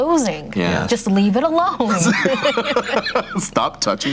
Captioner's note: group laughter